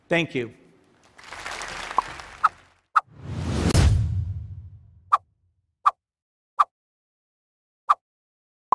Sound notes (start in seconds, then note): 1.0 audience applauding; 3.1 logo whooshing